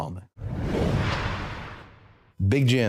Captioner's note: logo whooshing